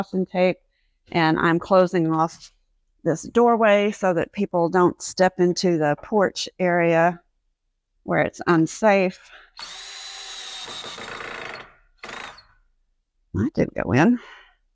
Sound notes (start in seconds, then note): 9.5 drill